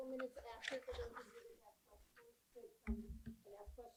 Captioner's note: speaking softly